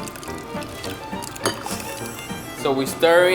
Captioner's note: glass clinks